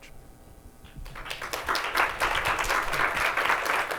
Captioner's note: applause